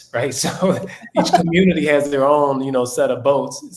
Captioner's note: laugh